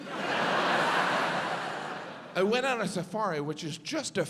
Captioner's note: audience laughs